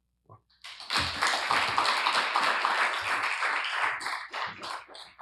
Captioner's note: applause